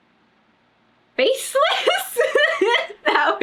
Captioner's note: laughs